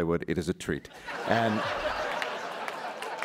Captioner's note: laughter